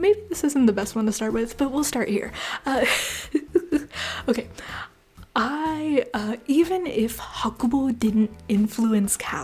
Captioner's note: laughter